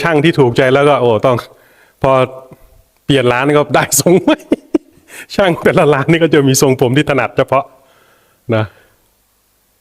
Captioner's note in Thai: เสียงหัวเราะ